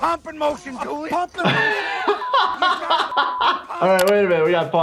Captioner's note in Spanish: se ríe